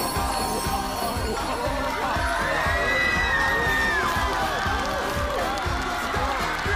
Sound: cheers everywhere

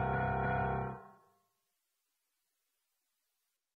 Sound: radio silence

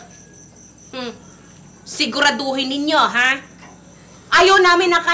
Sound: scoffs

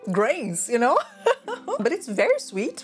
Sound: laughs

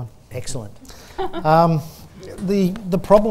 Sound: laughter

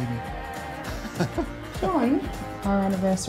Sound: laughs

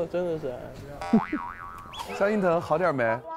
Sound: laughing foolishly alone

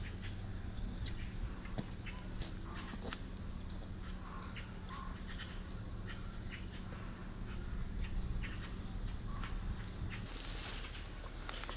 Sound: sound of birds

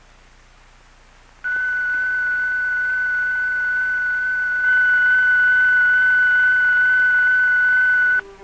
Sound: electronic signal tone

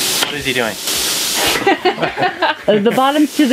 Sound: laughter

